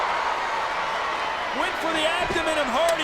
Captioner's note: audience cheering